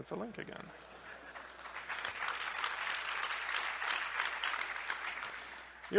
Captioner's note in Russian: аплодисменты